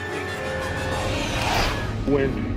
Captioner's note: wush